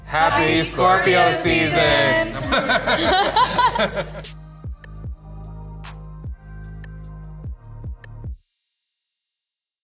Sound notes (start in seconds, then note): 2.7 laughing; 4.7 mellow music